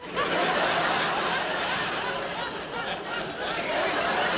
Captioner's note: audience laughing